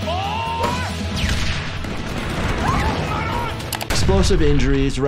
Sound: explosions

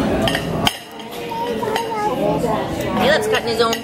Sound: baby jabbering

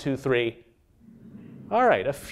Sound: humming

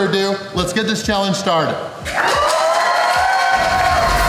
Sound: crowd clapping and cheering

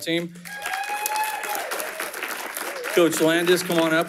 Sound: audience cheering and applauding

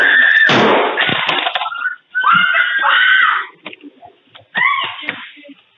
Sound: gunshots fired; screaming in the house

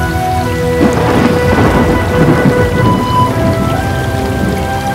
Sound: rain & Thunders

